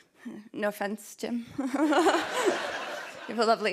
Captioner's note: laughter